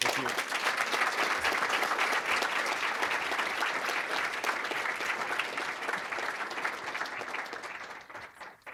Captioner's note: applause